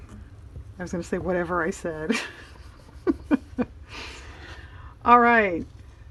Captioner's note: laughs